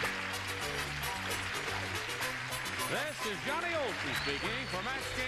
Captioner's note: plauding, theme music